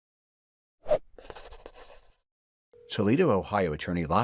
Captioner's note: logo scribbling; sketchbook whooshing; pen scribbling